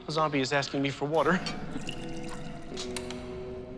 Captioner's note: water pouring